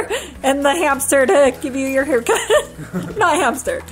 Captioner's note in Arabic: يضحك